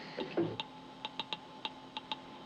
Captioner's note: tapping message